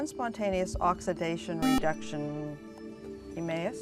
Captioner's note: buzzer